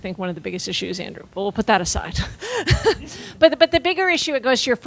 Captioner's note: laughing